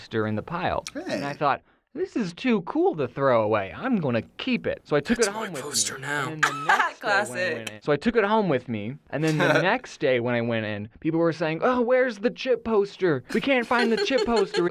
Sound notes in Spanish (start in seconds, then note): 5.3 risas